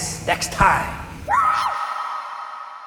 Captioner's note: scream